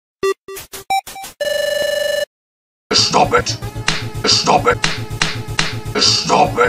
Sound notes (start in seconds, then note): 4.8 slap